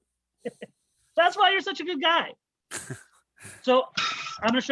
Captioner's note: chuckles